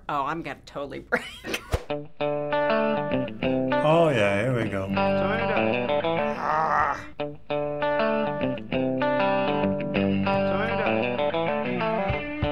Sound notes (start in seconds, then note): 1.2 laughing; 6.1 grumbling; 7.2 guitar playing